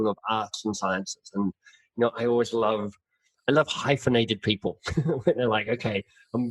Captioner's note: laughs